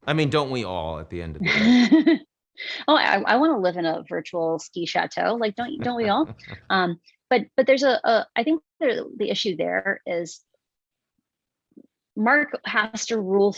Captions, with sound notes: - I mean, don't we all, at the end of the day? - (laughs) Well, I wanna live in a virtual ski chateau. Like, don't we all? But I think the issue there is Mark has to rule